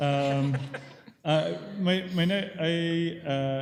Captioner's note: laughter